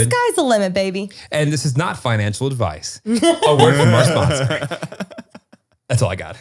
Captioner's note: laughter